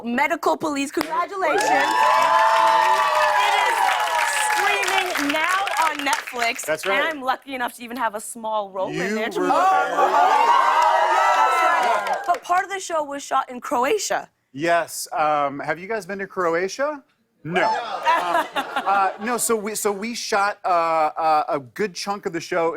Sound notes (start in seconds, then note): 17.6 laughter